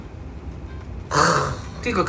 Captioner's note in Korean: 감탄